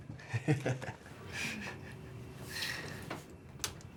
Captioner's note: Addison laughs